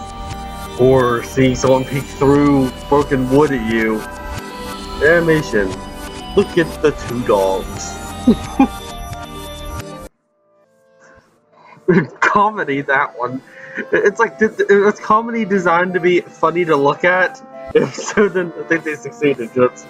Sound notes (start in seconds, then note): 8.2 chuckles